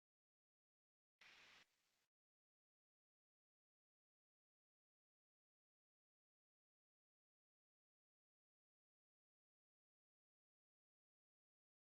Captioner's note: silence